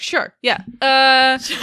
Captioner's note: laughing